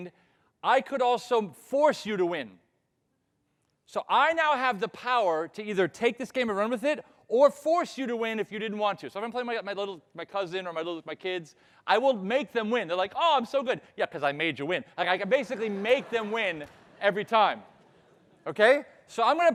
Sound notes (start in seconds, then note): 15.3 audience laughing